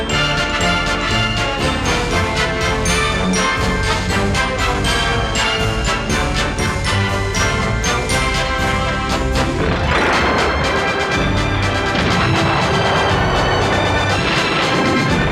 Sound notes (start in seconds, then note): none